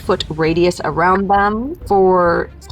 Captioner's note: die rattling